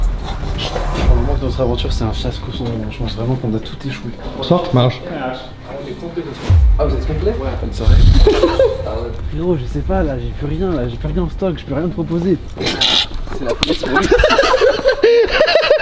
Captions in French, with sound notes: - Pour le moment notre aventure c’est un fiasco sans nom J’pense vraiment qu'on a tout échoué - Bonsoir - C’est complet monsieur - Ah vous êtes complets ? - Ouais - Bonne soirée *rire* Frérot, je sais pas là... J'ai plus rien là, j'ai rien en stock J’peux rien proposer *rire* - C’est la p- *claque* *rires*